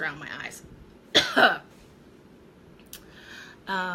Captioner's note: coughing